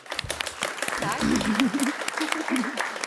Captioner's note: Applåder